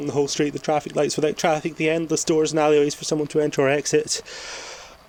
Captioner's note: gasp